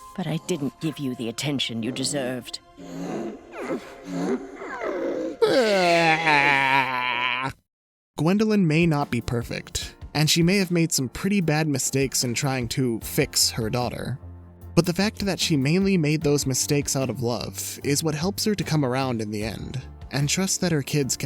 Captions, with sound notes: - But I didn't give you the attention you deserved. - [whimpering] - [bawling] Gwendolyn may not be perfect and she may have made some pretty bad mistakes in trying to fix her daughter, but the fact that she mainly made those mistakes out of love is what helps her to come around in the end and trust that her kids